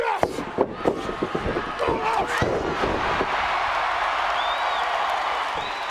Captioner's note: wrestlers grunting; audience cheering